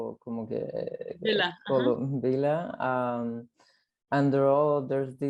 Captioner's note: speaks in foreign language